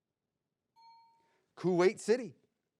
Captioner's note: bell dings